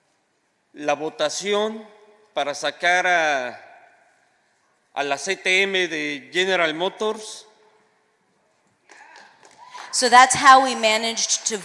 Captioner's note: speaking spanish